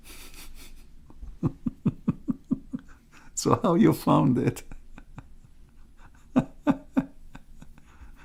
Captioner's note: Ketawa